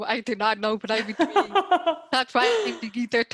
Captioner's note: laughing